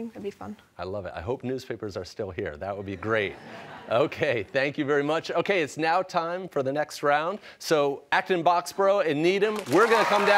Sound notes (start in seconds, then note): 3.0 laughter